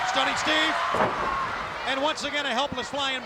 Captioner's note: canvas thudding